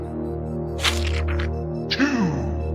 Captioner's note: splat sound